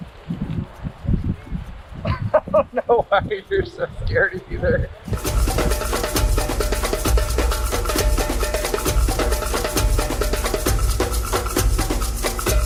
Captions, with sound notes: - I don't know why you're so scared. (laughs) (tense music)